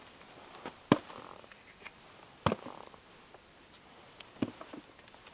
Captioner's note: jerky thunking